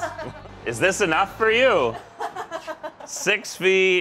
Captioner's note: laughter